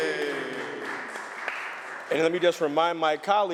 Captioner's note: applause